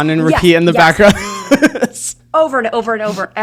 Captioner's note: laughs